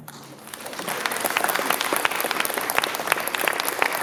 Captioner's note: applause